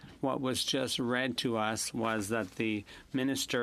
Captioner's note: speaking French